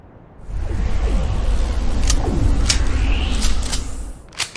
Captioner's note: wind whooshing